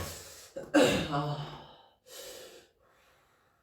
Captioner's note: clears throat